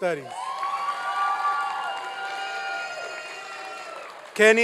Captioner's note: applause and cheering